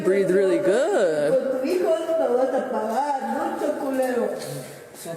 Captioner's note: speaking in foreign language